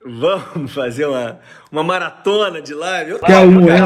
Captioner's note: laughs